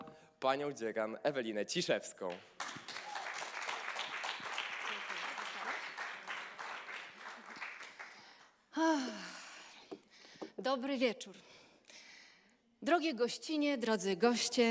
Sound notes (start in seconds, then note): 0.0 speaking polish; 2.2 applause; 8.8 sighs; 10.6 speaking polish